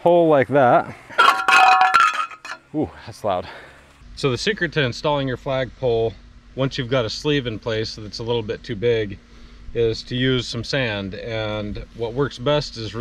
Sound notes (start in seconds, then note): 1.1 clanks loudly